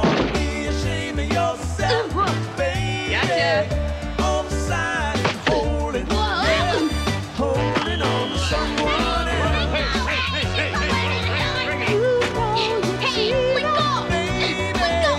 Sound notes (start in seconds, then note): 5.1 whistle shrills; 12.3 yells; 13.5 players thudding